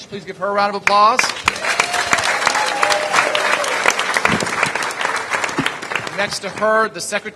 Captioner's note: applause